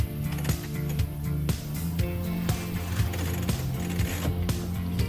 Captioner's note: winch pulley block rattling